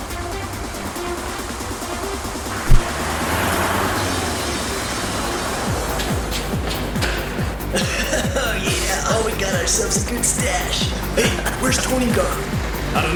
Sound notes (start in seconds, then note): 7.0 Thug laughing